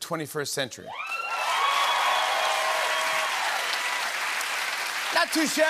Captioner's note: cheers and applause